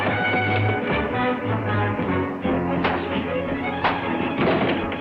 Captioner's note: fists landing